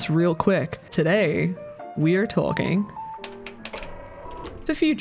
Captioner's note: projector whir